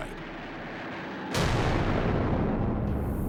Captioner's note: boom